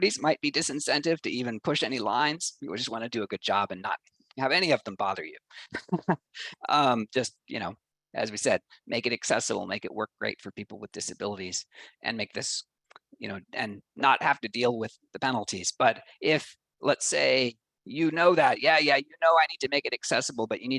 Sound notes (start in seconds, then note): 5.5 laughs